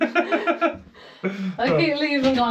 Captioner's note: laughs